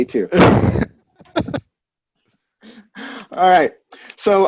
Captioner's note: laughs